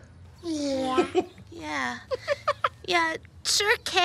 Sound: laughing

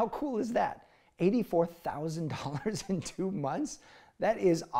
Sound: chuckling

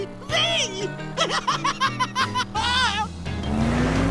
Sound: laughing

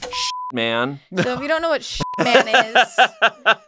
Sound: beep; laughs; beep

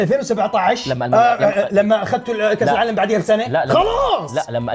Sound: mockingly

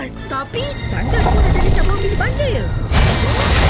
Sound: loud rumbling

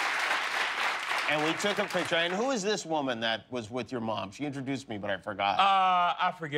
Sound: applause

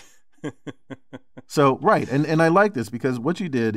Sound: laugh

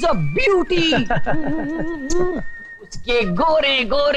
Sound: laughing

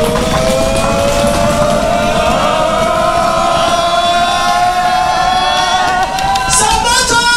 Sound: cheering

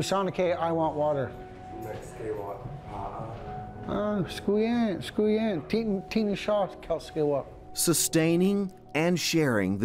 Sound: speaking Yurok

